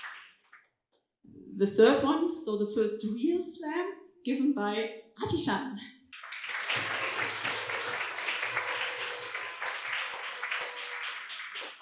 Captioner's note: applause